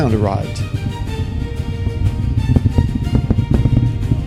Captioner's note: rumble